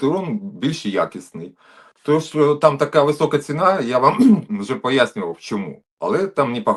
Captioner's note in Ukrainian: прочищення горла